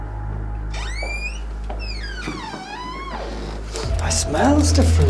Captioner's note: door creaking